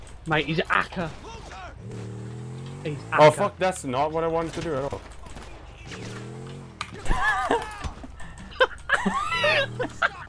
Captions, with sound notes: Mate he's a 'acker. Mate he's a 'acker. He's 'acker. He's 'acker. -that's not what I wanted to do at all. -that's not what I wanted to do at all. [Chuckles] [Chuckles] [Joyful giggling] [Joyful giggling]